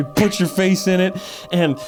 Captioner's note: inhale